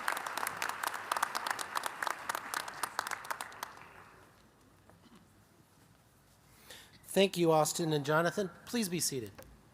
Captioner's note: applause